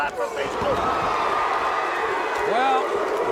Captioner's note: audience cheers